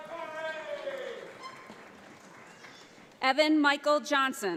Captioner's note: audience applauds